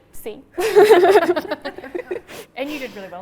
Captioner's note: laughs